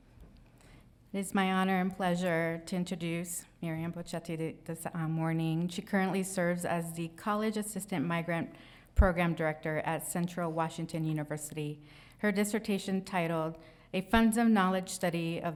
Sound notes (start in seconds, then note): none